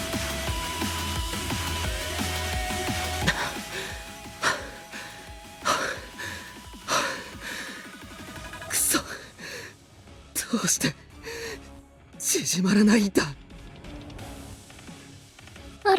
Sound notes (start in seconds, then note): 3.2 panting